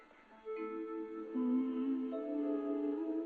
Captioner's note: eerie music; Leslie humming